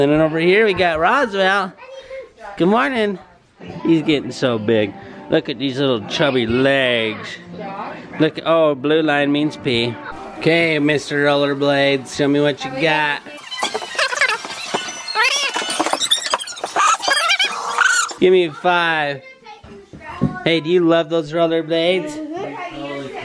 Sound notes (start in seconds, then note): 13.2 fast-forward sound